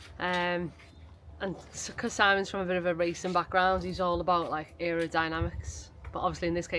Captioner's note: none